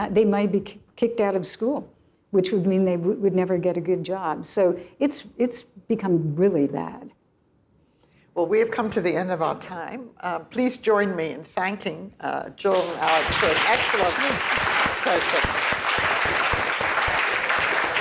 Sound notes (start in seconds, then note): 12.7 applause